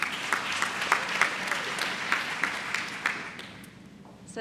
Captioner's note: applause